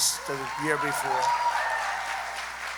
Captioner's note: applause